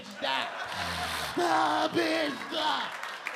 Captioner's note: audience laughing; LilRel exaggerating laugh